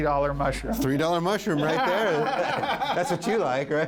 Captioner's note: laughs